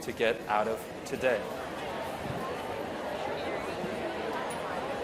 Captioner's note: chatter